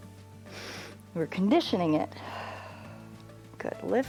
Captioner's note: inhales; exhales